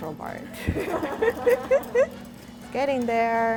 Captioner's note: laughs